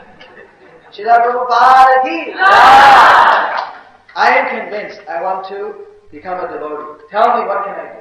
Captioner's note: devotees saying jaya & clapping